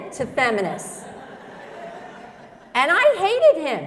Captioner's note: laughter